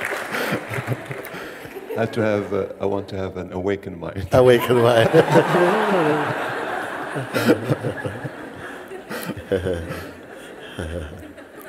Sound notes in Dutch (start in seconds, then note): 7.0 gelach